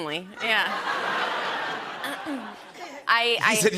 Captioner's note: laughter